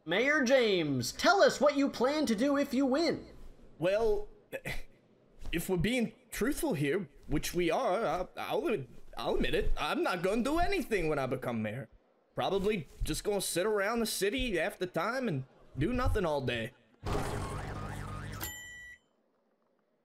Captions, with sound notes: Mayor James, tell us what you plan to do if you win. Well.. [chuckles] If we're being truthful here- which we are- I I'll ad.. I'll admit it. I'm not gonna do anything when I become mayor. Probably just gonna sit around the city half the time and.. ...do nothing all day. [Various cartoon and mechanical noises]